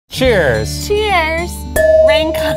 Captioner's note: glasses clinking